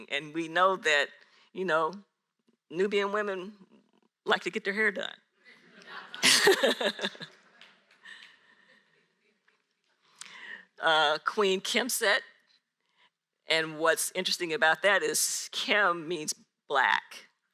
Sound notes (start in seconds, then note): 5.6 audience laughs